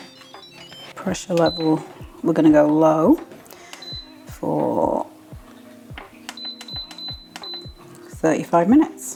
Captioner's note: clunk; beep beep beep